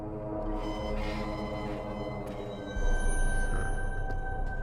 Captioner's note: gate squeaking; tense music